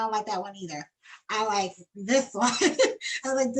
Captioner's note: laughs